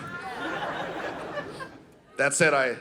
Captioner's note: audience laughing